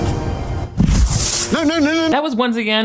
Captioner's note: energy whooshes